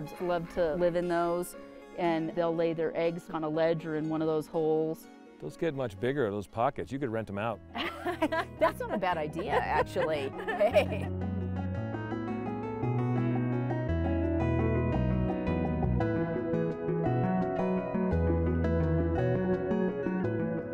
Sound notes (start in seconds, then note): 7.7 laughing; 10.7 lively guitar music